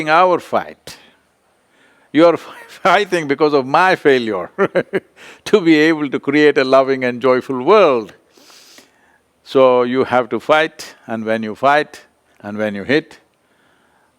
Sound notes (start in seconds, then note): 4.5 laughs